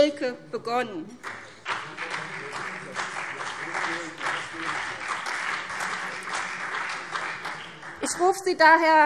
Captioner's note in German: Beifall CDU und BÜNDNIS 90/DIE GRÜNEN